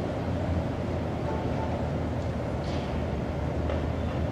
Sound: train rumbling, wind whooshing; car honks in the distance

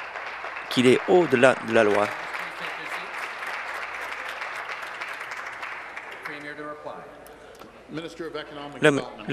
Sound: applause

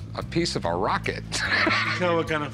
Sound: laughs

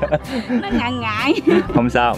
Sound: laugh

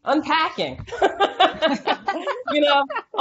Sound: laughing

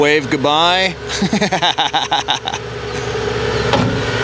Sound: laughing

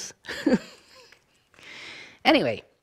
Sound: chuckling

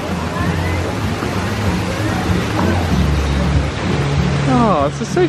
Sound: upbeat music continues; water splashing continues

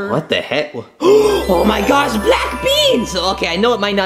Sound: gasps

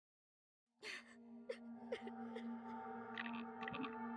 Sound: fem voice sobbing

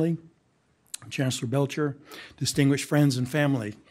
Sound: none

